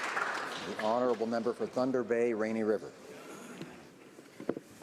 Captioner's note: applause